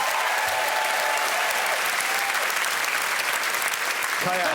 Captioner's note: cheering and applause